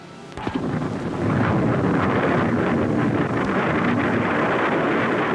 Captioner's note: rocket rumbling